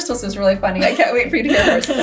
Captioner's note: laughs